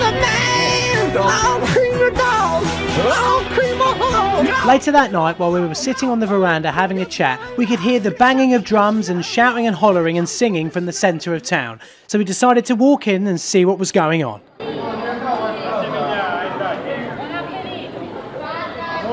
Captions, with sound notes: Later that night, while we were sitting on the veranda having a chat, we could hear the banging of drums and shouting and hollering and singing from the centre of town. So we decided to walk in and see what was going on. (people chattering)